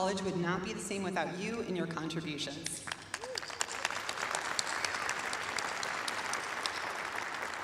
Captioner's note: applause